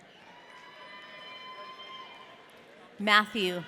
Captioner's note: audience cheering